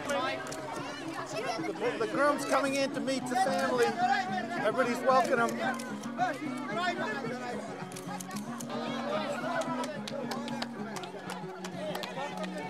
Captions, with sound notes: The groom's coming in to meet the family. Everybody's welcoming him. (soft music) (villagers chattering)